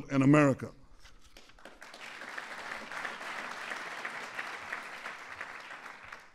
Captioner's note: applause